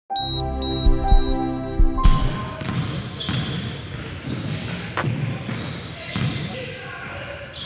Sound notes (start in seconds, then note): 0.1 calm music; 0.1 beeping; 1.9 balls bouncing; 2.2 people talking